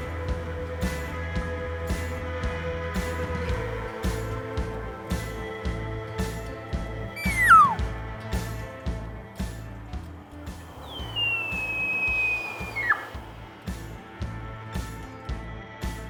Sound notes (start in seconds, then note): 7.1 tube call bugling; 7.9 upbeat music; 10.2 elk bugling; 13.3 upbeat music